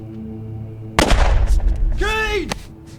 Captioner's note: gunfire popping